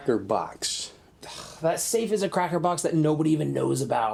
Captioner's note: sighs